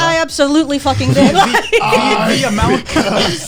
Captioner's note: all laughing